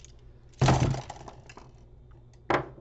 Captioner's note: art supplies crash against desk